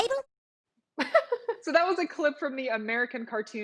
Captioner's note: laughs